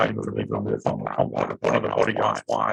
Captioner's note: audio distortion